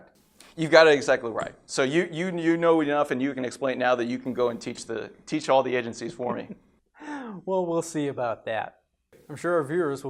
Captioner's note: laughs